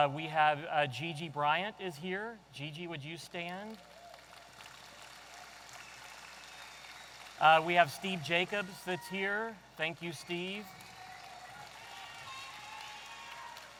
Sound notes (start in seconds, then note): 3.7 audience applauding